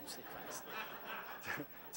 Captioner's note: laugh